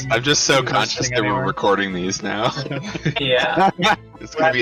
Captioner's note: laughs